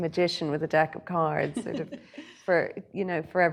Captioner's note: laughing